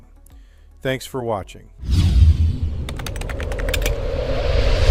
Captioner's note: whooshing; keyboard clicking